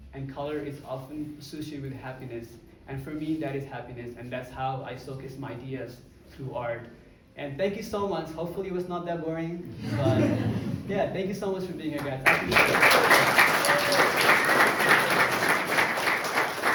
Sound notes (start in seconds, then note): 9.8 crowd laughs; 12.2 crowd applauding